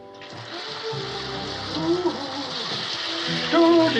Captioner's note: continues humming